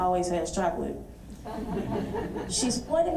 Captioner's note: audience laughs